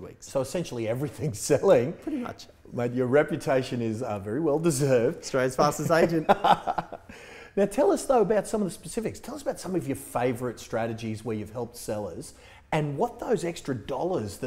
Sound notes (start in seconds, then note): 5.8 laughs